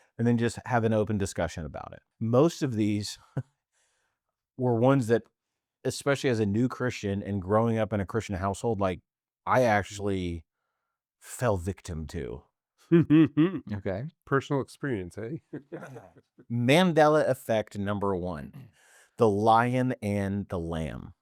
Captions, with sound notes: and then just have an open discussion about it. Most of these were ones that, especially as a new Christian and growing up in a Christian household, like I actually fell victim to. (laughing) Okay. Personal experience, hey? (laughing) Mandela effect number one, the lion and the lamb.